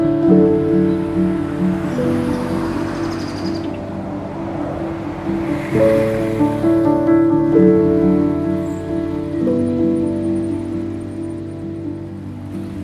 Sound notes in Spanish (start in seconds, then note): 3.3 Canto de las aves; 6.2 Suave música de piano